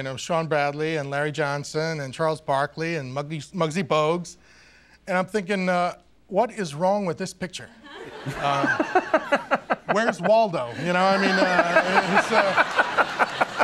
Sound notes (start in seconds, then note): 8.1 Conan laughing